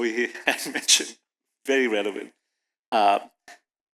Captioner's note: chuckles